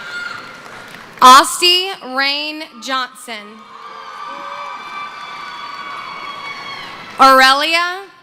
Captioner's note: cheering and screaming